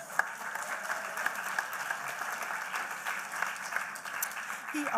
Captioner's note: applause